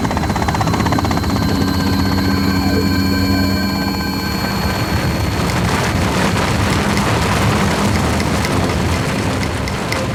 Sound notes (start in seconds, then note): 1.6 radio wave; 5.8 avalanche roars